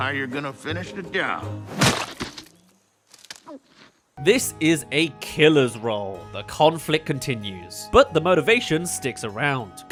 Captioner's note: gulp